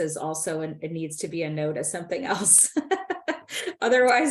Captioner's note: laughs